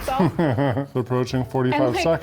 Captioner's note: laughs